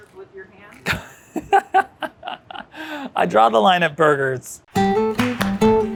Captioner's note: laughs; bright music